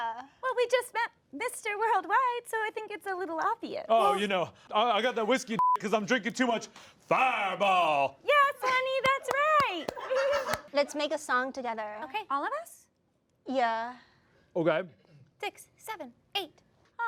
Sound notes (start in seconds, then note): 5.6 beep